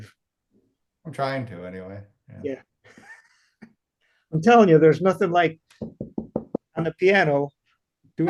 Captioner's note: knocks on desk